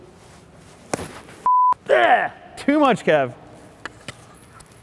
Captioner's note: beep